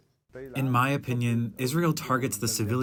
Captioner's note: through translator